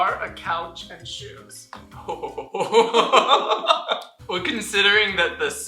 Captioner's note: laughter